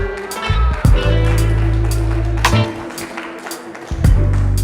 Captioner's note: audience clapping; groovy music